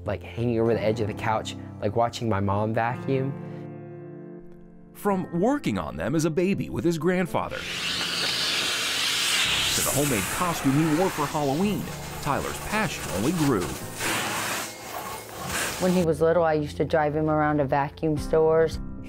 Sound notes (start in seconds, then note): 7.6 high-pressured air being sucked through tube; 14.2 high-pressured air being sucked through tube